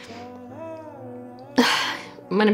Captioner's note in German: Seufzen